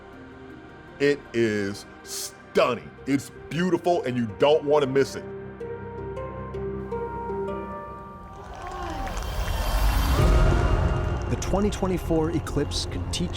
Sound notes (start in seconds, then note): 8.1 crowd cheering and applauding